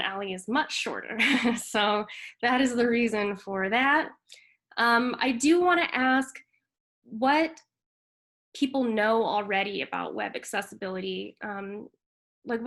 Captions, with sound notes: and Ally is much shorter. (chuckles) so that is the reason for that. I do wanna ask what people know already about Web Accessibility.